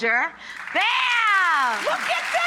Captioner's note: audience clapping